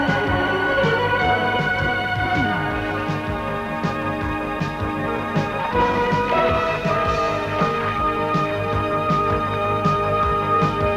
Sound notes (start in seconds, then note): none